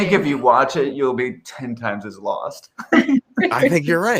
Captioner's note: laughs